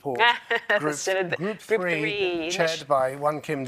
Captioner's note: laughs